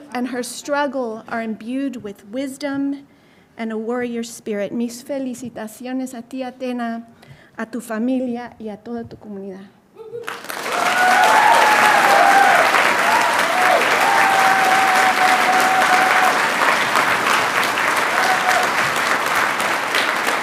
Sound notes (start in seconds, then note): 5.3 speaking Spanish; 10.2 audience applauding and cheering